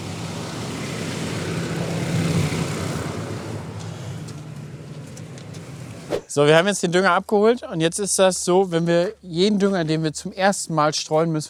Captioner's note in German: Motorgeräusch